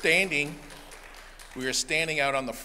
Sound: applause

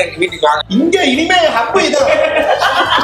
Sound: laughs

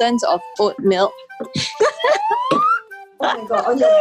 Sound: laughs

